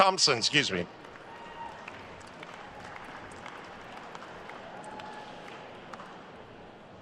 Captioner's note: attendees cheering and applauding